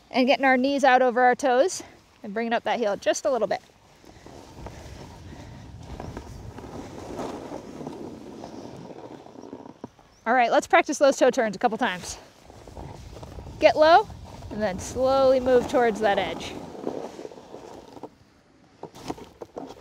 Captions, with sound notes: and getting our knees out over our toes. And bringing up that heel just a little bit. (snow crunching) Alright, let's practice those toe turns a couple times. Get low, then slowly move towards that edge.